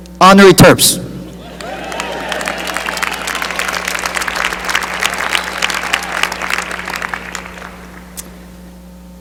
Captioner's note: cheering and applause